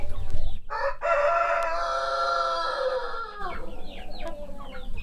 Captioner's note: rooster crowing